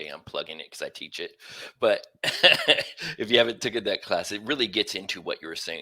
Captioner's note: laughter